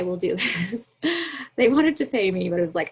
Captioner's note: laughs